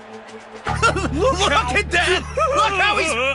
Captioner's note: laughter